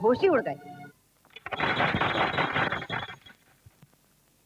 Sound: door knocks

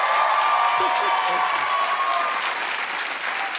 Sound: applause

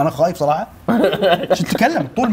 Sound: laughing

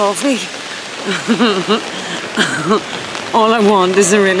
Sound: laughing

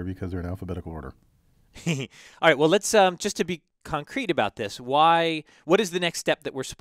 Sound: laugh

